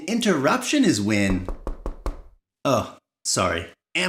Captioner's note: knock knock